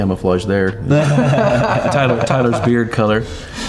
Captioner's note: group laughing